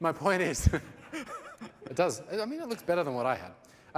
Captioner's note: laughter